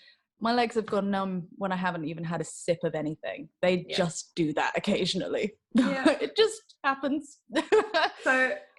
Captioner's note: laughs